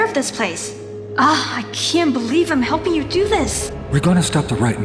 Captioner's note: sighs